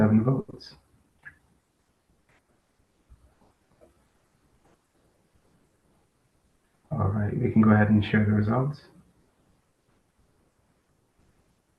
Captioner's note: pause